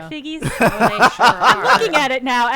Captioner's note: group laughing